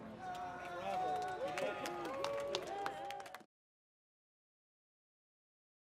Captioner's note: applause